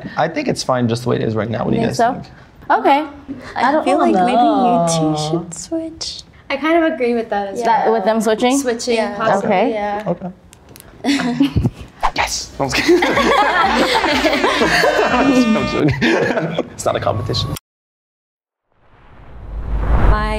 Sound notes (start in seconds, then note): 12.8 everyone laughs; 15.3 chuckles